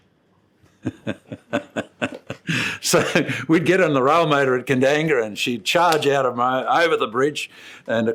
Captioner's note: laughs